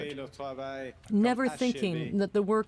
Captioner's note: speaking French